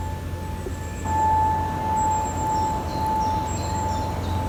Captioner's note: birds chirping